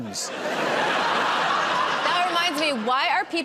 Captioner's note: laughter